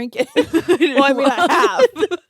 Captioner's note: laughing